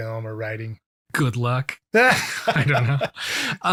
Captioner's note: laughs